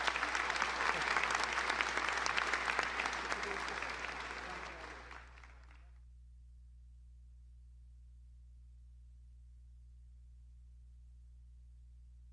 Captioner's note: applause